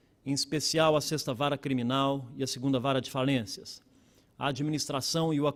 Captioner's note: speaking Portugese